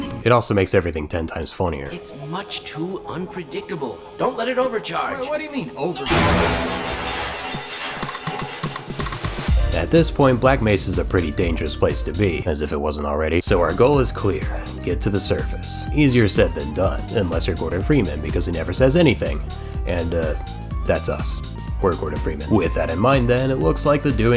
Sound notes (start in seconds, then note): 6.1 boom